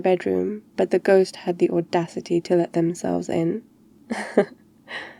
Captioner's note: laughs